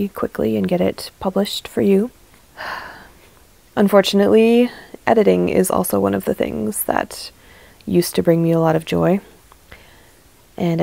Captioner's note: sigh